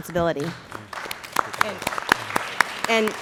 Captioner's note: applause